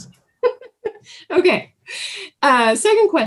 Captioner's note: laughing